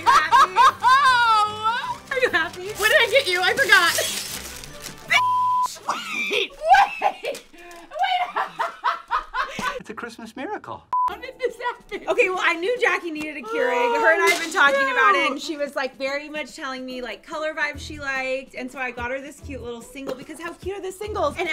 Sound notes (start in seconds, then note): 3.9 laughs; 4.0 tearing paper; 5.2 beep; 8.8 laughing; 10.9 short beep; 11.8 talking but laughing